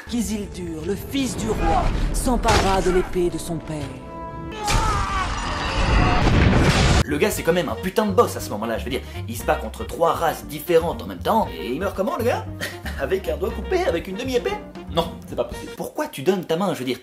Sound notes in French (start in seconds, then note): 4.4 Cris + hurlements